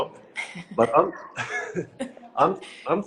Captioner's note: both laugh